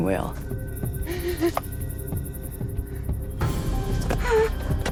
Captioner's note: strained moaning